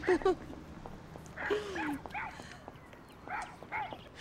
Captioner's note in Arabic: نباح الكلب